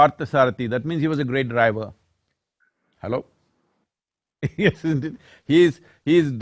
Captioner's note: laughs